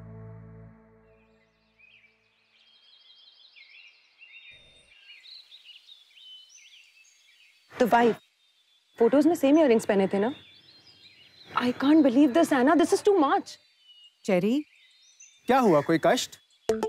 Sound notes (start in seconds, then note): 1.1 Birds chirping